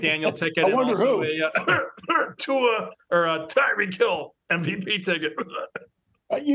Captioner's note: cough; cough